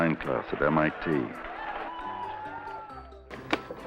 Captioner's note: cheering